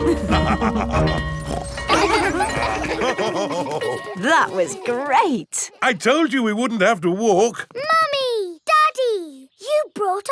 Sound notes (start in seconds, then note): 0.0 school bell ringing; 0.0 both laughing; 1.3 daddy pig snorts; 3.0 children laughing; 3.0 daddy pig laughing